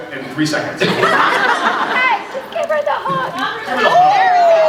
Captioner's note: laughs